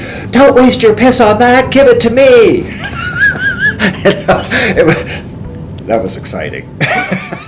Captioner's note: laughs